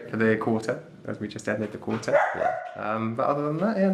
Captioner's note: dog barking